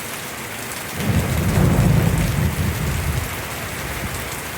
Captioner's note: loud thunder